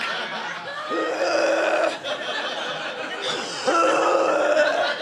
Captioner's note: audience laughing; gaging